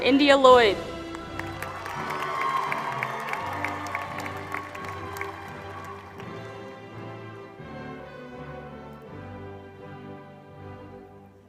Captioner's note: applause